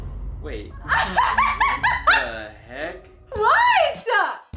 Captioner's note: laughing